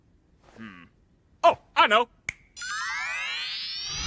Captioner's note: snap!; mystical shimmering